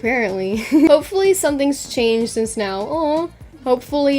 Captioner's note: laughs